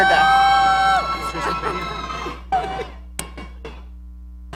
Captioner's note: audience cheering